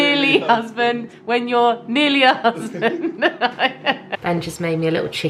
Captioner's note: laughs